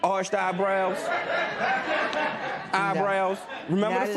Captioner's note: laughter